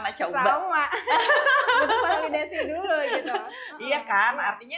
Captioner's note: laughs